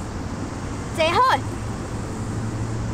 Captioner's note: Cantonese